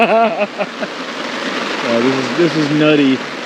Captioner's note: all laughing